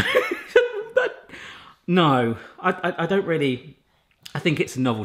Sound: laughs

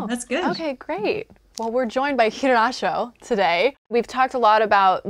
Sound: speaking Sangheili

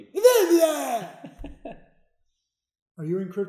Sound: babbles

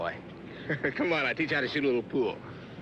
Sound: giggles

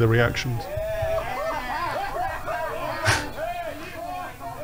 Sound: cheering

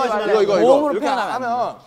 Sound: wriggle

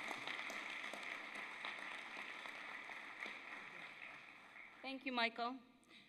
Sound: applause

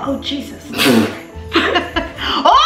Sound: laughs

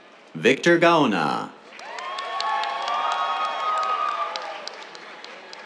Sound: cheers, applause

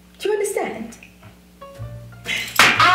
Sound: slappng the table

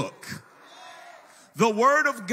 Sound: congregation cheers and applauds

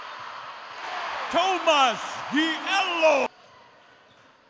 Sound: cheers

